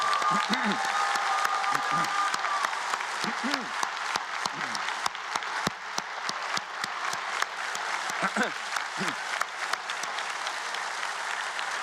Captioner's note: cheers and Applause